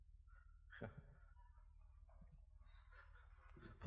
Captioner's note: laughs